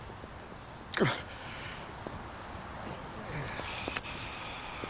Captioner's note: Chris sighs